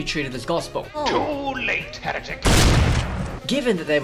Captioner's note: bang